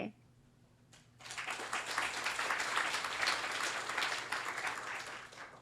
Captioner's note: applause